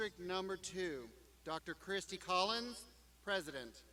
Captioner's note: none